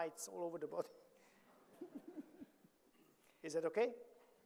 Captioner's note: audience laughing